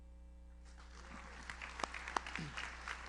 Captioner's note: audience applauds; audience member cheers